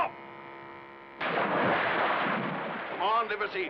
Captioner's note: cannon blast